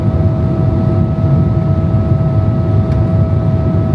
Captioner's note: aeroplane whirring